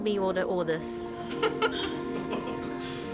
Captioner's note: speaks chinese